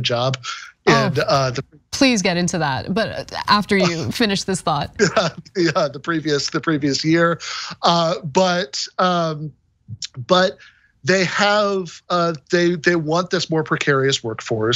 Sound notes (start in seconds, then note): 4.6 laugh